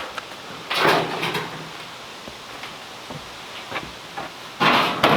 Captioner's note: metal clanging hollowly